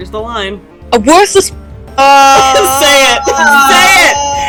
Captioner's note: laughing